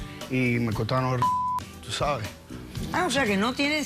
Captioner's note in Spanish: Bip